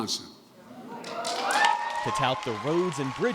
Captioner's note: cheering and applause